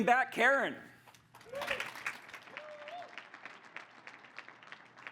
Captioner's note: crowd applauds